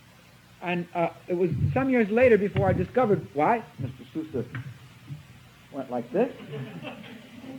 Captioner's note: laughter from audience